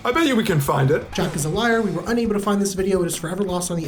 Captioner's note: voice-over